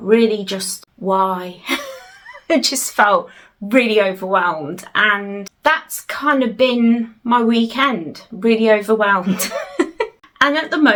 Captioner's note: laughs